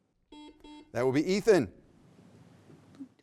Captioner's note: beep